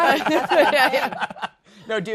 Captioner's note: laughing